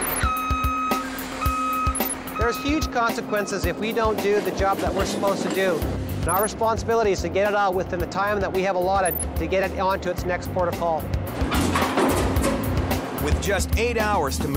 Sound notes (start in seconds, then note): 0.0 lorry beeps; 11.2 metal clanging